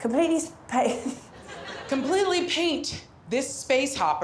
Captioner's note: laughs